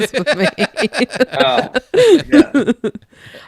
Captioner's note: laughing